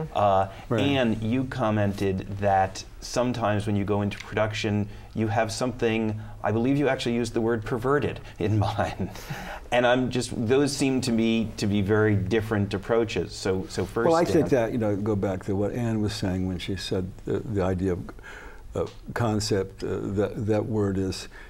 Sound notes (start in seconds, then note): 9.1 laughs